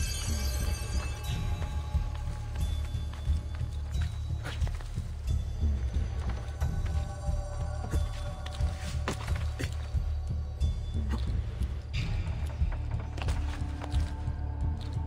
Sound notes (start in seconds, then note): none